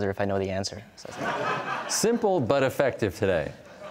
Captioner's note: laughter